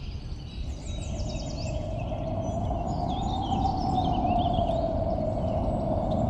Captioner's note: birds Chirping; wind Howling